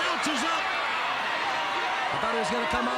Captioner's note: crowd cheering